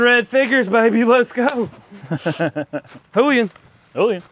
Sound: laughter

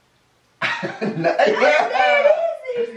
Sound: laughing

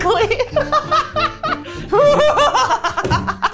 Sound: laughing

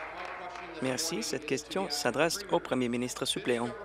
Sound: applause

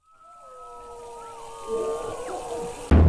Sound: high-pitched whine

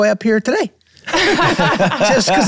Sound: all laughing

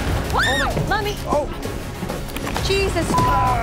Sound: screams

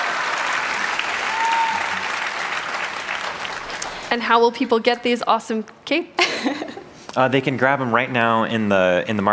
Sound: cheers and applause

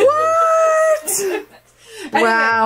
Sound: laughs

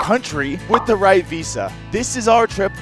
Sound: bubble popping

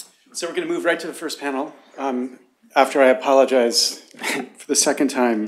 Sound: laughter

